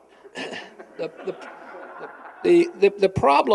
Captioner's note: laughter